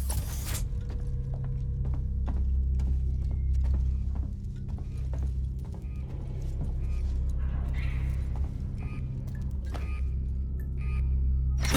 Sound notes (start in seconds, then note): none